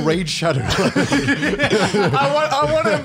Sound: laughs

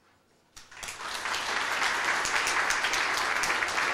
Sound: audience applause

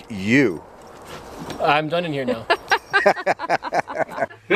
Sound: laughter

